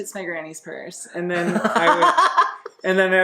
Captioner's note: laughs